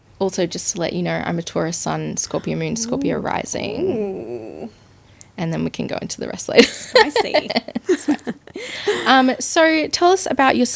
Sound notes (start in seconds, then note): 7.9 laughing